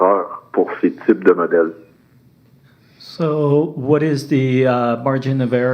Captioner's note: speaking French